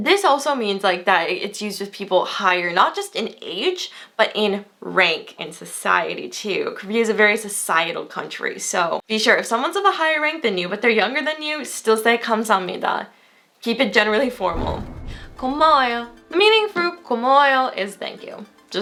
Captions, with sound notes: This also means like that it's used with people higher not just in age, but in rank in society too. Korea is a very societal country, so be sure if someone's of a higher rank than you, but they're younger than you, still say (foreign language) Keep it generally formal. (whooshing) (foreign language) The meaning for (foreign language) is "thank you."